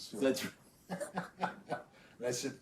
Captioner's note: both laughing